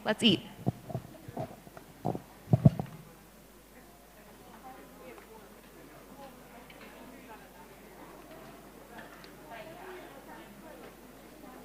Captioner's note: indistinct conversation